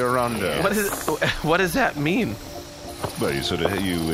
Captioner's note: murmuring along